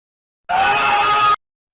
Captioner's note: booba screams